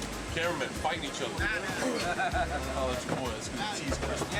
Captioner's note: laugh